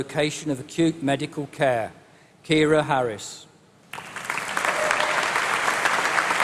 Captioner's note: applause